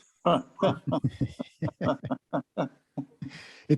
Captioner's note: all laugh